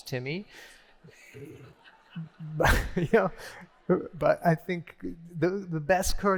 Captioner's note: laughter